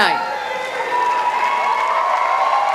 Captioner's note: cheering